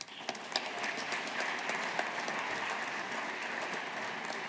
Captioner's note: audience applauding